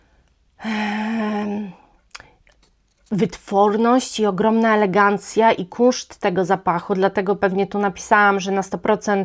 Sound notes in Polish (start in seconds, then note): 0.6 wciągnięcie powietrza; 0.6 westchnienie